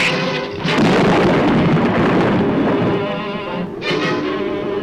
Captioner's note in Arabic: تصفيق الرعد; تستمر الموسيقى المشؤومة